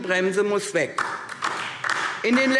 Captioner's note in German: Beifall DIE LINKE